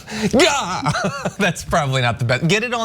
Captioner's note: laugh